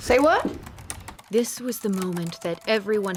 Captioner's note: typing